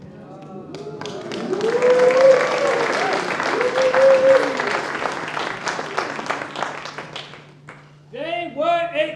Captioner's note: applause